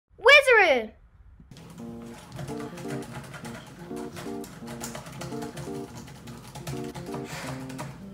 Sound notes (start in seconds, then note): 1.5 light music; 3.2 laptop keys clicking